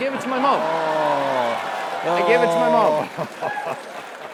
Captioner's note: applause; laugh